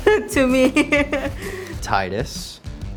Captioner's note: laughs